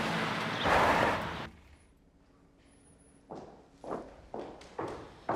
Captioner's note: tires screeching